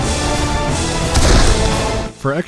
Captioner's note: bloosh